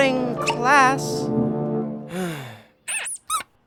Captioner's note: sighs